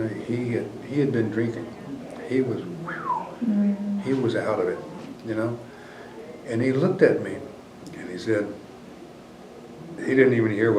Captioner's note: whistles